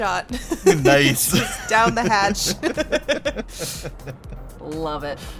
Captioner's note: chuckles